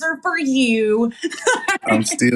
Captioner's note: laugh